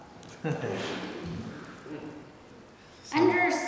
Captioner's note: chuckles